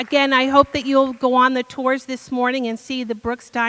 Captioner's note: applause